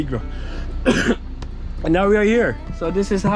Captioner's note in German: hustet